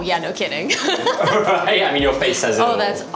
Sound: laughter

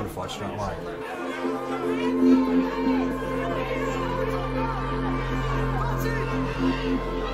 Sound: whistles; crowd shouting

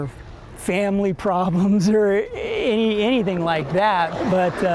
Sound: laughr

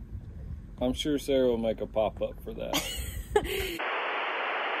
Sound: laughter

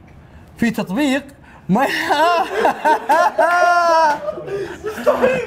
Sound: cracks up

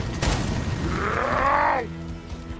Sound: elite roars

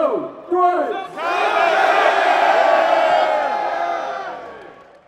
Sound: crowd shouts in unison

